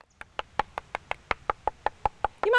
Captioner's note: knocking